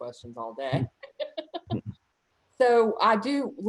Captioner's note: laughs